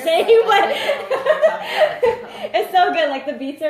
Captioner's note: laughs